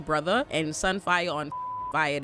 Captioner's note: beep